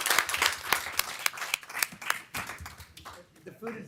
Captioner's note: applause